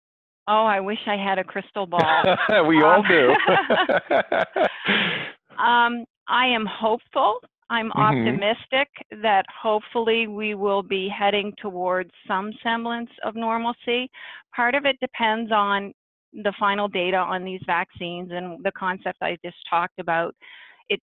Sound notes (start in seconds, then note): 3.5 participants laughing